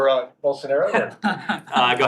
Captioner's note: laughter